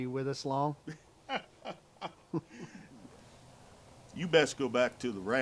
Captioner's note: men chuckle